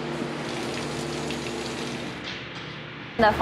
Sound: water running

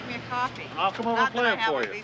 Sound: laughs

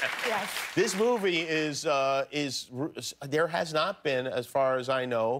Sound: laughter and applause

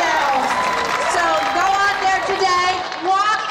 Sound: cheering

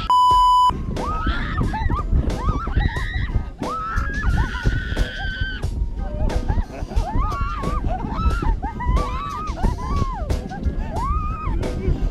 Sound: screaming and laughing

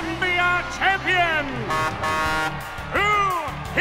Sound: truck horn

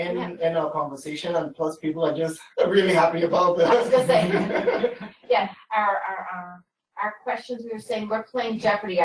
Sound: laughter

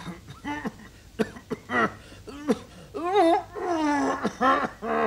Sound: coughs and wheezes

